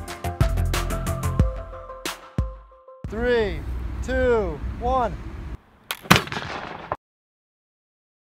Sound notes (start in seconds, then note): 6.0 bang